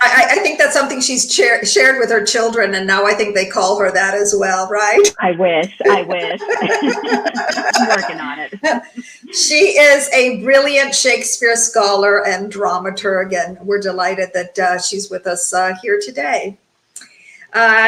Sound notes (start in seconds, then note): 5.0 both laugh